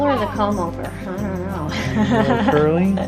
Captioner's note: laughs